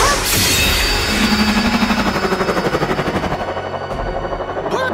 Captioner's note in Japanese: クラーケンのうめき声